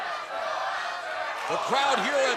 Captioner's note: fans chanting